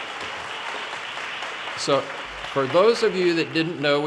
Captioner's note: audience cheers and applause